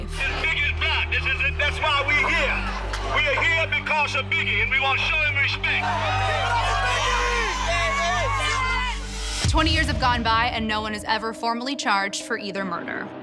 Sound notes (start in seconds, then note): 5.8 cheers and applause